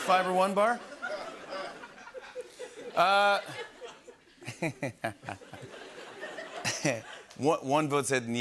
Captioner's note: laughter